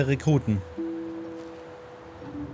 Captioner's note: pensive sounds